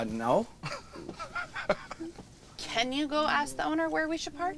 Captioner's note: Robert laughs